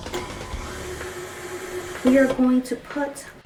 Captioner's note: mixer whirring